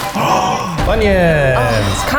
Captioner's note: gasps